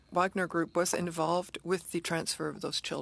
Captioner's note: speaking French